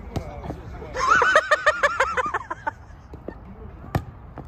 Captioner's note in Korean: 웃는소리 킹받네